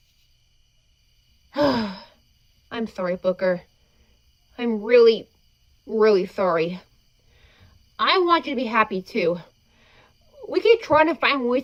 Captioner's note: sigh